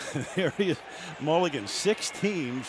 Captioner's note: chuckles